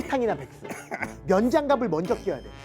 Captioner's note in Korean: 콜록콜록